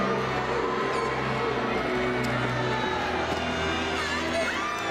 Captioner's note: crowd cheering